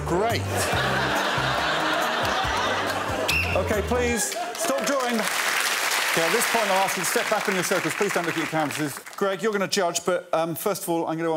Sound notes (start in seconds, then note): 2.6 laughter; 3.2 whistle blows